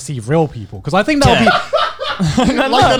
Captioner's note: laughs